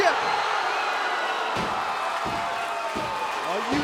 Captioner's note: crowd cheering